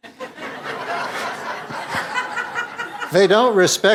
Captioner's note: audience laughs